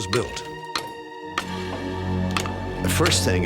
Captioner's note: hammering